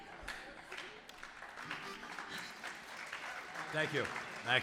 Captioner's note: audience applauding